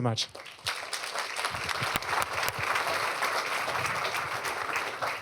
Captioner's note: applause